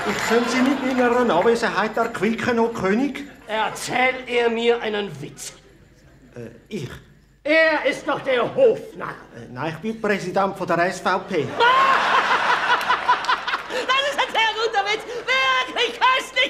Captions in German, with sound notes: -Ich soll sie unterhalten, erheitern und erquicken, mein König? -Erzähl er mir einen Witz! -Äh, ich? -Er ist doch der Hofnarr. -Nein, ich bin Präsident der SVP. *König lacht schallend* -Das ist ein sehr guter Witz! Wirklich köstlich!